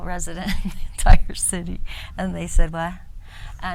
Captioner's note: woman laughs